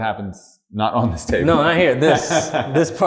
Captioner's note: laughter